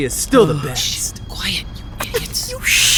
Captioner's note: hushed; giggling